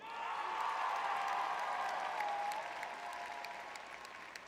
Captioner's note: audience cheering